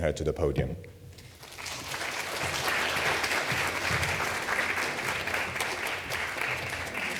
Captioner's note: applause